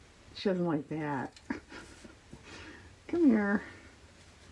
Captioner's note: laughs